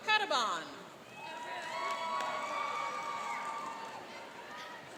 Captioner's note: cheering and applauding